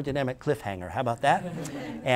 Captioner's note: laughter